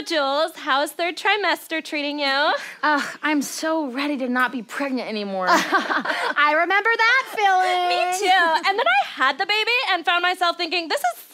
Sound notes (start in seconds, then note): 5.5 laughter